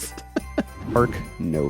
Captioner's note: laughing